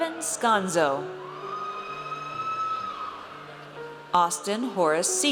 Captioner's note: audience cheers